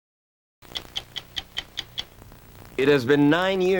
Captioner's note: stopwatch ticking